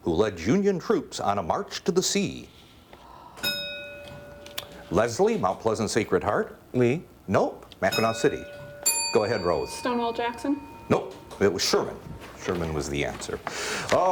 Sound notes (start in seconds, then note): 3.4 bell rings; 7.9 bell rings